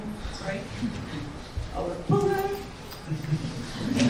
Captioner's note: audience laughs